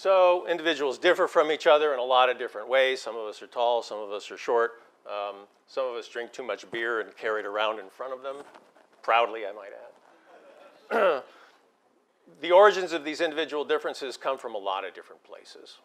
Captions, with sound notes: So individuals differ from each another in a lot of different ways. Some of us are tall, some of us are short, some of us drink too much beer and carry it around in front of them, proudly, I might add. >> [LAUGH] >> [COUGH] The origins of these individual differences come from a lot of different places.